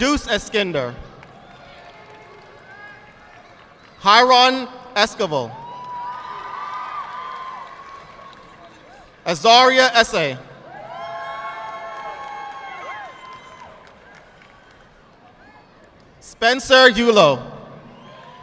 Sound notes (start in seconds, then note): 1.1 audience clapping; 5.7 audience clapping; 11.4 audience clapping